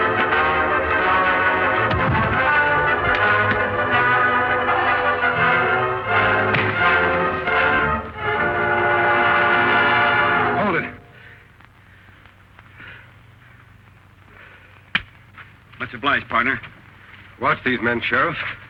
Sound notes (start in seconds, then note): 1.8 thud!; 6.5 whack!